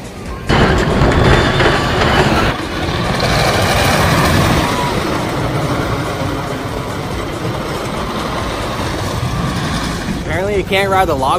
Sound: coaster sounds

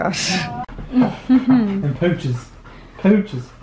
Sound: chuckling

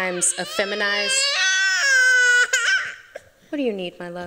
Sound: crying

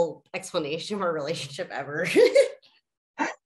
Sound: laughs

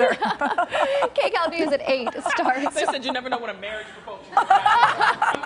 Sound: laughter

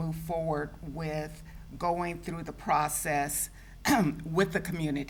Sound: clears throat

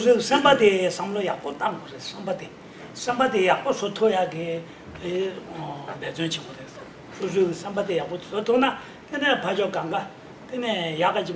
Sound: speaking in foreign language

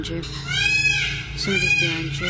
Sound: peacock squawks

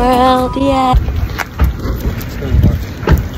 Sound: ocean winds

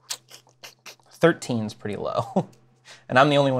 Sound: laughs

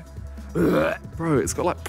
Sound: Simon imitates heaving

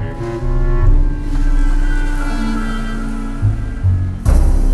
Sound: rain falling

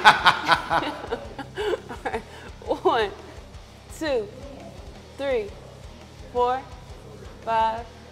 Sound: laugh

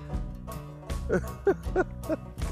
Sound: laughs

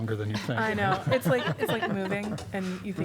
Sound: laughter

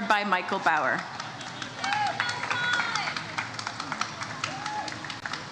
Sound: audience cheers

